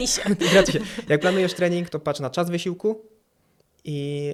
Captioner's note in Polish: śmiech